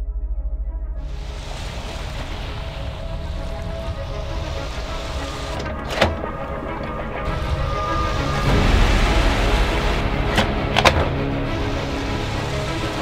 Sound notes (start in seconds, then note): 0.1 intense music; 4.2 waves crash